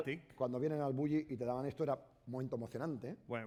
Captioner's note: speaking spanish